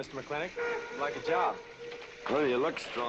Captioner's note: train horn blaring